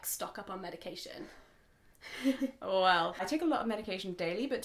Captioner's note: laughs